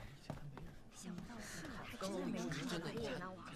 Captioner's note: indistinct chatter